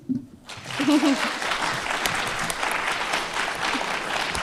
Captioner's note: audience applauds